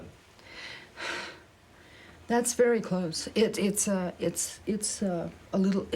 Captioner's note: deep sigh